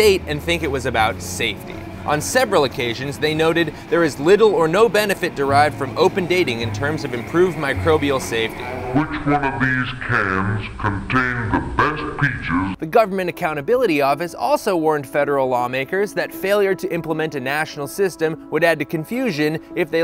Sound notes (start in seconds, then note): 7.8 slowed, distorted vintage voiceover